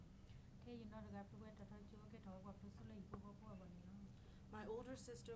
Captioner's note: speaking in foreign language